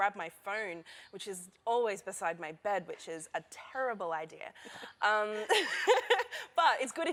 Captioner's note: laughter